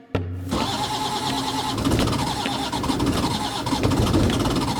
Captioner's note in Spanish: ronroneo del motor